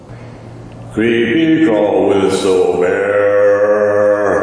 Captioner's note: reverb and echo